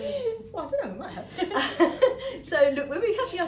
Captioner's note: laughter